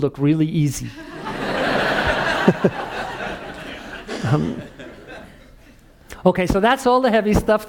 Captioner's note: laugh